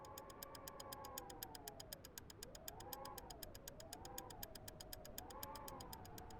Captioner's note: clock ticking